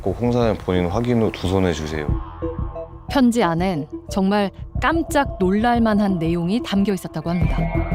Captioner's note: voiceover